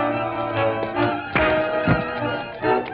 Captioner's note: punch thuds